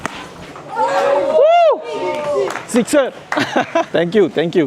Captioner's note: laugh